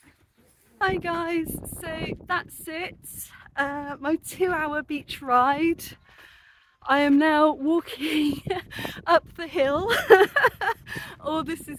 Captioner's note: laughing